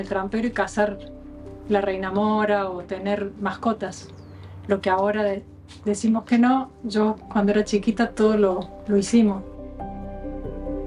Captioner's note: bird